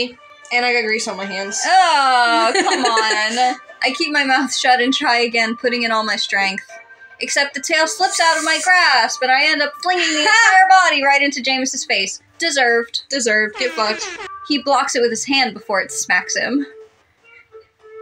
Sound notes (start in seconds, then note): 2.3 laugh; 13.5 air Horns